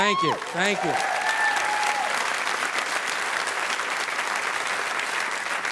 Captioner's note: audience applauding